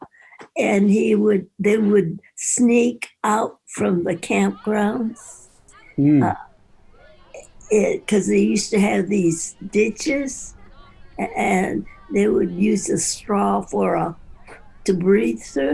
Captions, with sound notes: and they would sneak out from the camp grounds (people chatting) 'cause they used to have these ditches and they would use a straw for to breathe through.